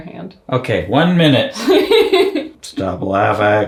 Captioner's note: laughs